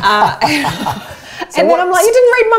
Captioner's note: both laughing